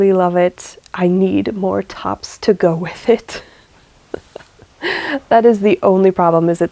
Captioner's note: laughs